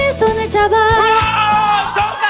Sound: shouting

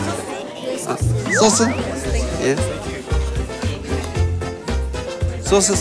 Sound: pronouncing Korean-style

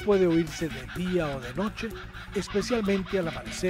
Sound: laughing call

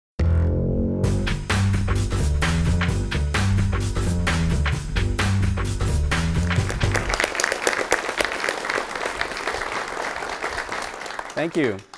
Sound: applause

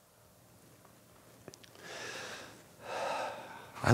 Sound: breathing quietly

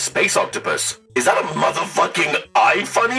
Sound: robot voice

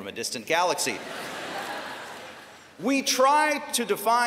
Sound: laughter

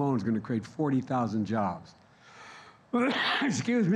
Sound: coughs

